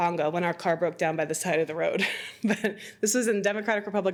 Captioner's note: laughs